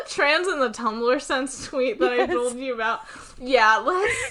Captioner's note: laughs